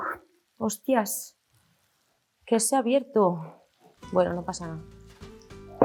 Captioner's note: speaks in Spanish